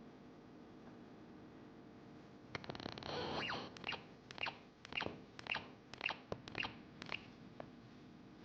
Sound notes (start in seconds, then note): 3.5 device chirping